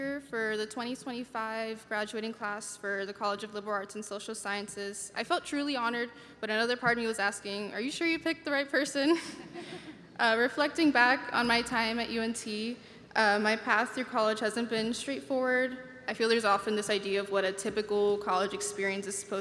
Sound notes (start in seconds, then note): 9.1 chuckling; 9.3 audience members laughing